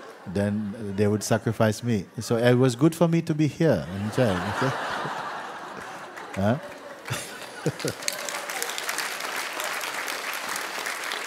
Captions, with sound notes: then, they would sacrifice me. So it was good for me to be here, in jail.' [Laughter] Huh? [Laughter and applause]